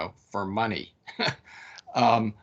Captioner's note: laughing